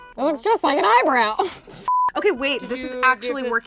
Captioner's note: laughs